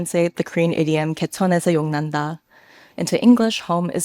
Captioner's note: speaks a foreign language